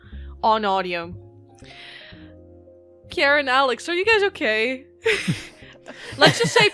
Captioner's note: laughter